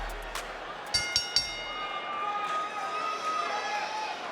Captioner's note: bell ringing